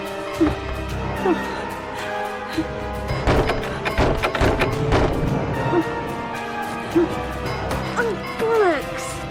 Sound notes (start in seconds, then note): 3.1 Barbra banging